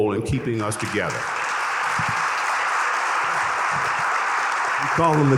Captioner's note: audience applauding